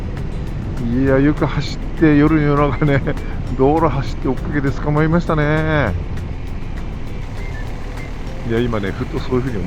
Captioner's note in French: Rires